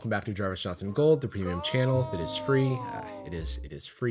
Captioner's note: disembodied voice